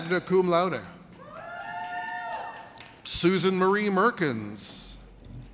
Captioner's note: audience cheers